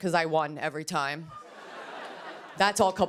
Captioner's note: laughter